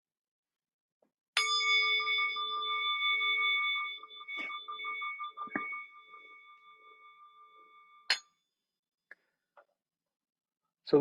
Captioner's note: silence; bell rings